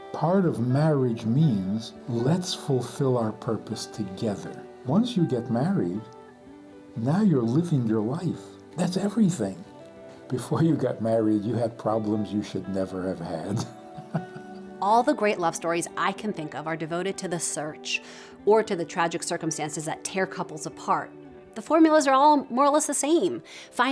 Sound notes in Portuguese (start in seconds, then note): 13.6 risos